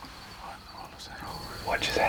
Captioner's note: whispering